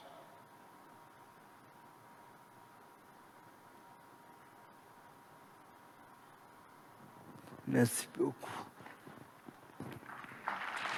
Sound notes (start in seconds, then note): 9.8 applause